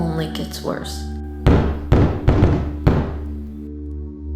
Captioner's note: knocking